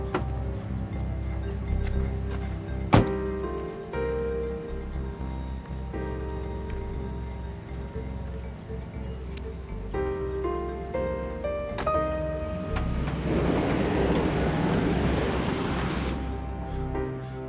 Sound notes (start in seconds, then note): 0.0 car door closes; 4.0 suspense music; 5.0 car motor runs; 13.7 sinister music